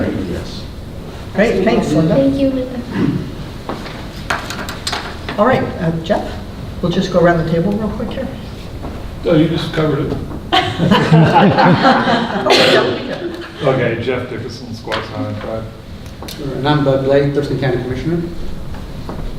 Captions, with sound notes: - Great, thanks Linda. - Thank you, Linda. - Alright, Jeff, we'll just go around the table real quick here. - You just covered it. (laughs) Okay, Jeff Dickison, Squaxin Island Tribe. - And I'm Bud Blake, Thurston County Commissioner.